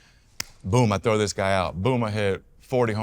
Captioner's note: hands slap